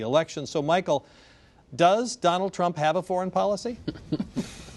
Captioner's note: laughter